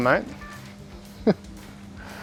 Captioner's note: laughing